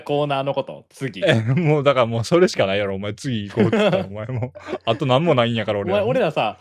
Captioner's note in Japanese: 笑い